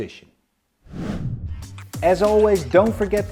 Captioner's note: air whooshes